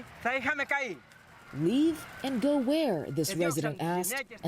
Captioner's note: speaking foreign language